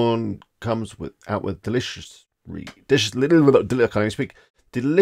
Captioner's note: stuttering